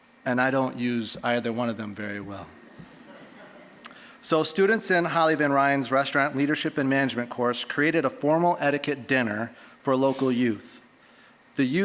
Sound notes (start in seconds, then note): 3.0 scattered laughing